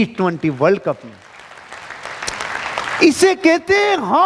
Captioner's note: round of applauses